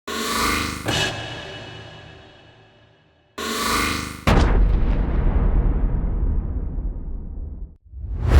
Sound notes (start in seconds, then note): 4.3 boom!; 7.8 swoosh